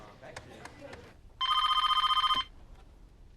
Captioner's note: PHONE RlNGlNG